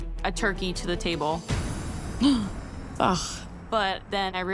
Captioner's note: gasps lightly